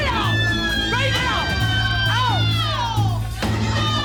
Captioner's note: women screaming; dramatic music